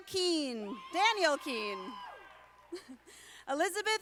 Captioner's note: audience applauding